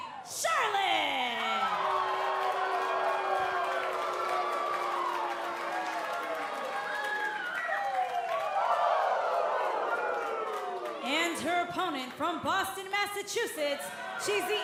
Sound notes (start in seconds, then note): 2.9 cheers & boos